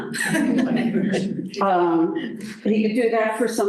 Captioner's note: laughter